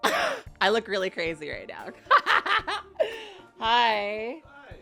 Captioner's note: laughs